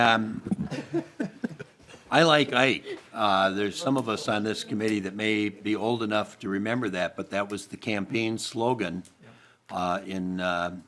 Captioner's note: laughing